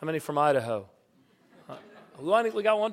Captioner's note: laughter